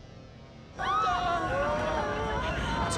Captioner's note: screaming